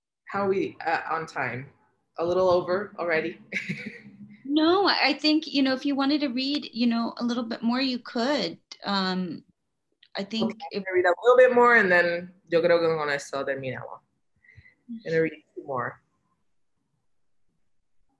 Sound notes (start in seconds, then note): 3.3 laughs